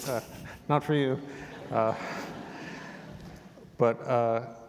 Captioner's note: audience chuckling